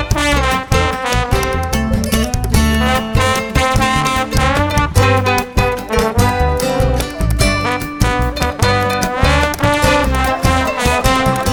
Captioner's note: applause